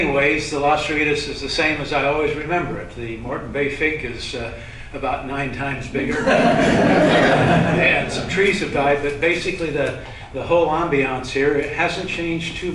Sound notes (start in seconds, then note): 6.1 laughter